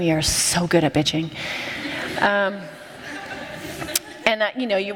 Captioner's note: laughter